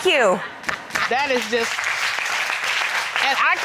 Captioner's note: applause